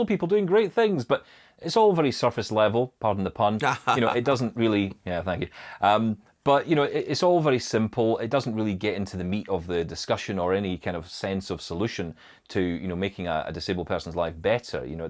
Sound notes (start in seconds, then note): 3.6 laughs